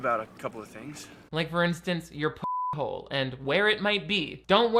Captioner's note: beep